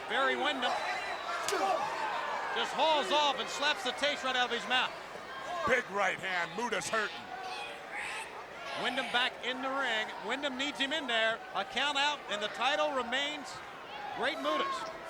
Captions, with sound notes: Barry Windham, (face thwacking) just hauls off and slaps the taste right out of his mouth. Big right hand, Muta's hurting. Windham back in the ring. Windham needs him in there. A count out and the title remains Great Muta's.